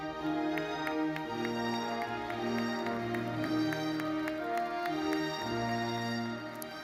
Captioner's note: audience applauds; classical music continues